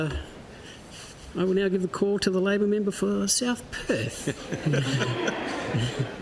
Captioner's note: laughter